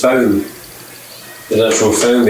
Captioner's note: meow